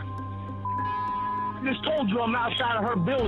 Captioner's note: caller speaking